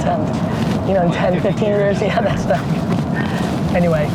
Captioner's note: laughs